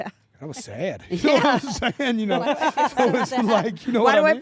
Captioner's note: laugh